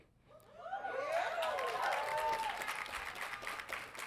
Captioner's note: audience cheering